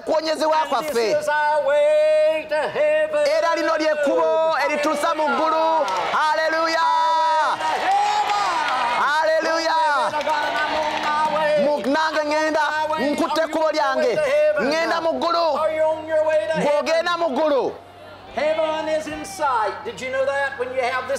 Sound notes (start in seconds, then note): 9.2 applause & cheering